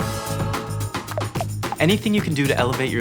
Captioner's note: bubbles popping